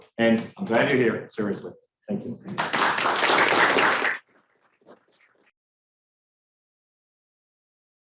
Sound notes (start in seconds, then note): 2.5 students applauding